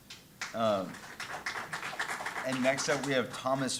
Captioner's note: audience applauding